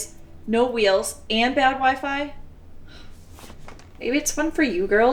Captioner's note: scoffs